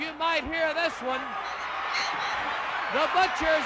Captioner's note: crowd cheering